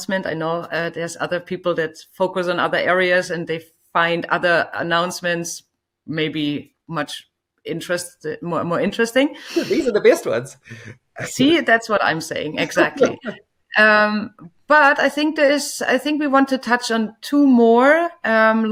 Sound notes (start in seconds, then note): 9.4 laughing